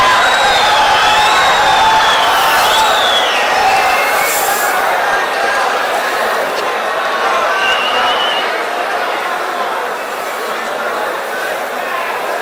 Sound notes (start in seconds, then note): 0.0 wild applause and cheering for 22 seconds